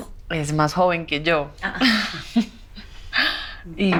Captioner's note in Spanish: Risas